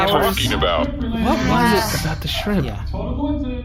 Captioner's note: shouting